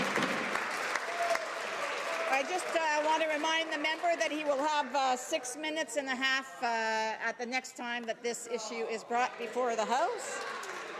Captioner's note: some Applause